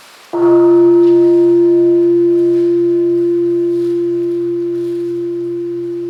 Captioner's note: bell ringing